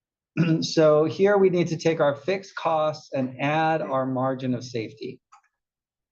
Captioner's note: cough